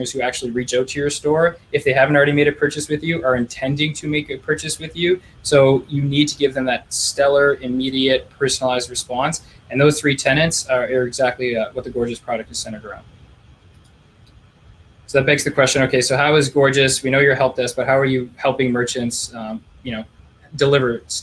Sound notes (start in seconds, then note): 13.6 clicking